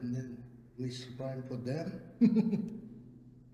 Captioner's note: laughs